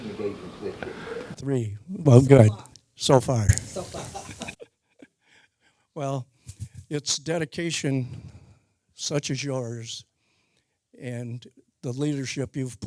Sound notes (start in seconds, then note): 3.6 laughing